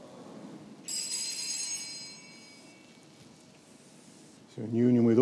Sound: bell rings

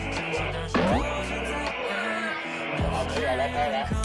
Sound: both burst out laughing

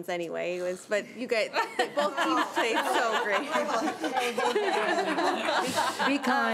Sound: trustees chattering and giggling

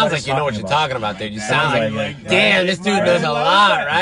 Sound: group chattering

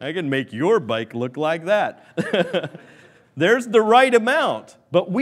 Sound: laughs

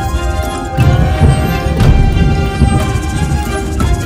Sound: thunder

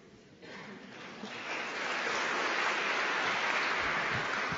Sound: applause

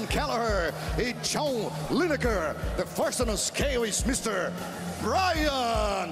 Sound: speaking foreign language

